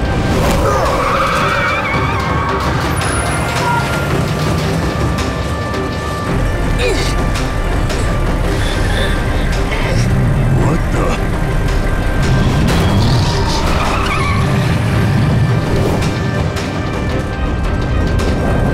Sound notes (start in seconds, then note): 6.0 groaning; 8.4 groaning; 12.7 grunting